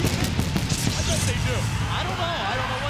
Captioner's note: fireworks exploding